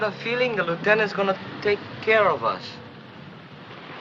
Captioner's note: vehicle approaches